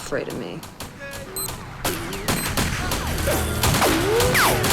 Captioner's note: explosives beeping; guns firing; slow music